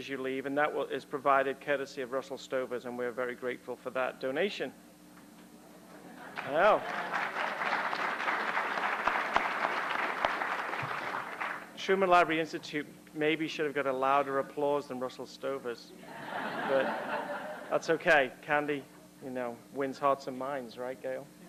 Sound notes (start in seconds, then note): 6.2 applause; 16.0 laughter